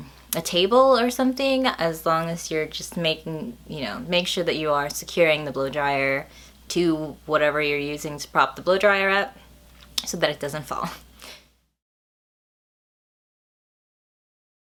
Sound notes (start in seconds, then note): none